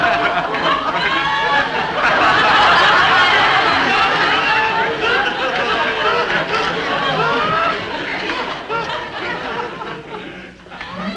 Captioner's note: audience laughing